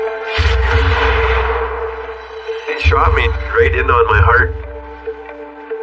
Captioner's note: gunshot